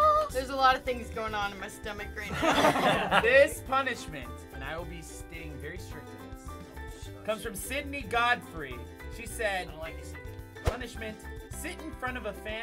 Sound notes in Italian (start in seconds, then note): 2.3 risata